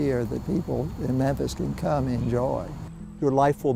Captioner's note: voiceover